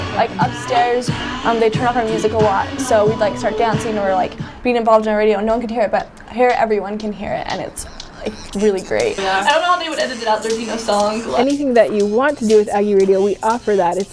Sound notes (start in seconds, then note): 9.7 non-english speech